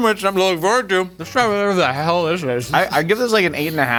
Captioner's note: laughing